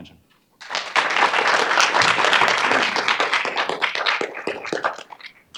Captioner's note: audience applauding